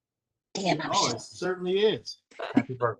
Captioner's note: laughter